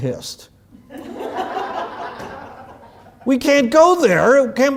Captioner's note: laugh